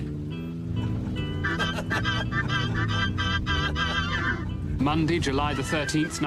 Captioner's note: laughter